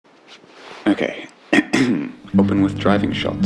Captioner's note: clears throat